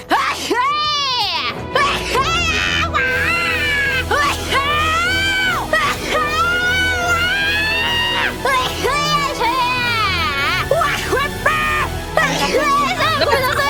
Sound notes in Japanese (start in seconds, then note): 0.1 くしゃみ; 4.1 くしゃみ; 8.4 くしゃみ